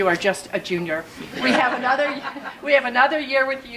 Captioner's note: audience laughs